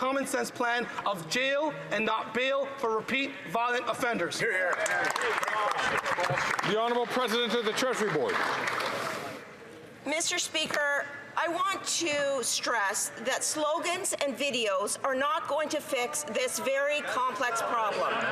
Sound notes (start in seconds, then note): 7.9 some Applause